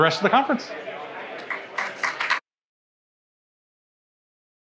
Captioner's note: audience applauding